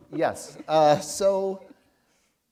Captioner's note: chuckle